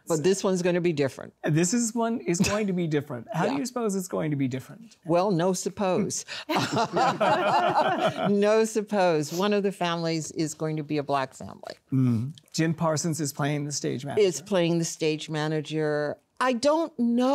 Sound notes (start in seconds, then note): 10.0 laughter